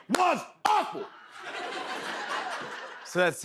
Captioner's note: laughter